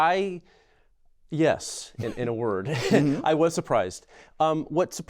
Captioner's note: laughter